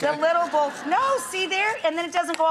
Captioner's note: crowed laughing